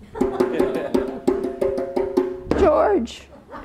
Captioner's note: people chuckle; tapping